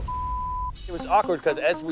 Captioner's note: metal clangs; beep